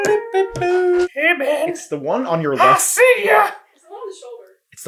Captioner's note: creepy and high pitched